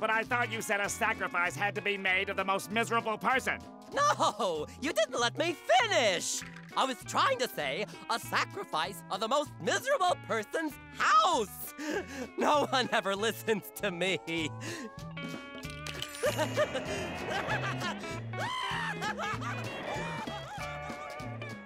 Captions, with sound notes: - But I thought you said a sacrifice had to be made of the most miserable person. - No. You didn't let me finish. I was trying to say, a sacrifice of the most miserable person's house. No one ever listens to me. [Chuckling] [Cackling]